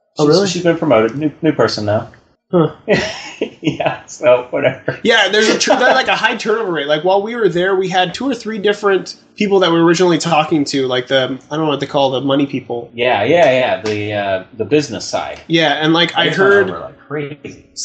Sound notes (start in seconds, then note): 2.6 laughs; 2.6 continues laughing